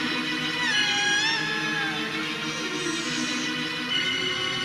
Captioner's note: creature whimpering; thrilling music